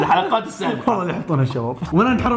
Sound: laughs

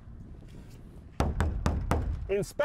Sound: knocking

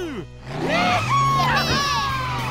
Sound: cheering

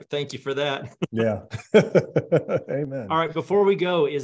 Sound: laughs

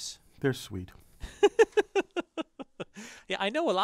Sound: laugh

